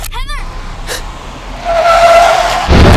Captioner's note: tires screeching; Heather gasps